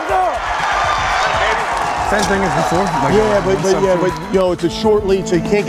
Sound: cheering and applause

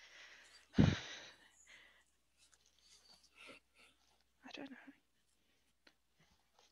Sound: quietly

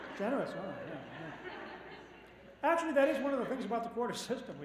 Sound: laughter

